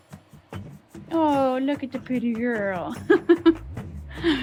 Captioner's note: laughs